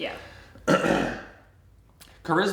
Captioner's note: coughing